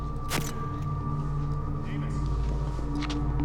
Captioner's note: camera snaps